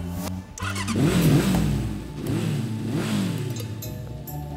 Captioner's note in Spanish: motor rugiendo